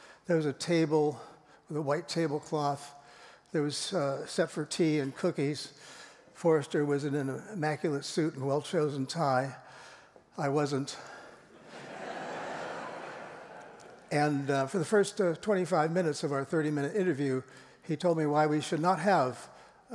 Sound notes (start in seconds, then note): 11.5 laughter